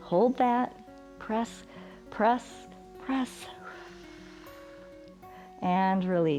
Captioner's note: exhales